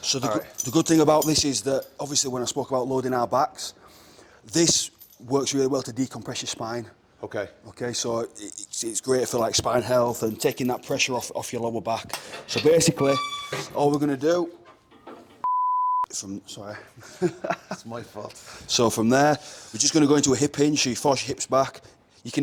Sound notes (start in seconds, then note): 17.0 laugh